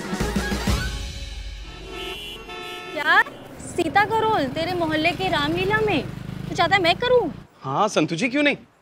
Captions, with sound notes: [traffic noises] What? Goddess Sita's role for the Ramleela adaptation in your colony? - You want me to do it? - Yes, Santu, why not?